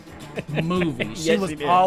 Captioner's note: laughs